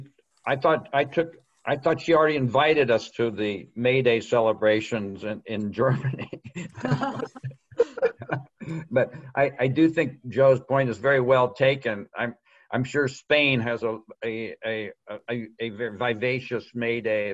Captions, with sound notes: I thought she already invited us to the May Day celebrations in Germany. (laughing) But I do think Joe's point is very well taken. I'm sure Spain has a vivacious May Day planned, as well,